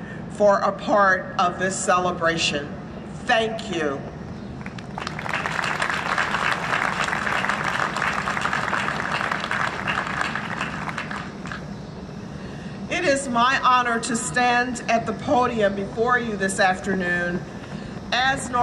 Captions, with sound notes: a part of this celebration. Thank you. [Applause] It is my honor to stand at the podium before you this afternoon as Northeastern